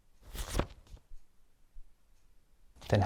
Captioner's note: photo rustles